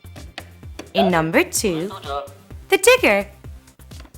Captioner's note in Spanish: Suena una voz en Coreano